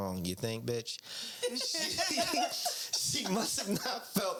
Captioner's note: laughing